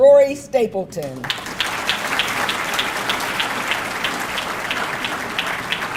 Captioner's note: audience clapping